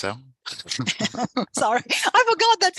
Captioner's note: laughter